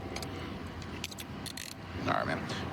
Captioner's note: handcuff closing